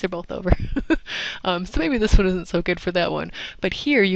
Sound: laugh

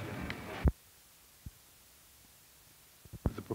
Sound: silence

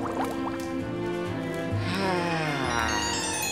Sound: sighing

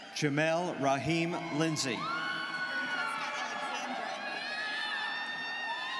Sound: students cheering

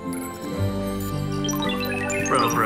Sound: beeping

